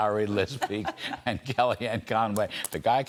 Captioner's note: laughter